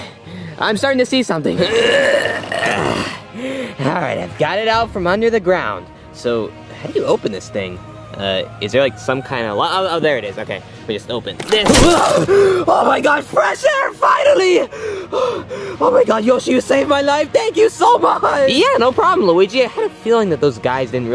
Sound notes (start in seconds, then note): 1.6 grunting; 12.2 Luigi gasps